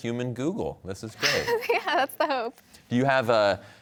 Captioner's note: chuckling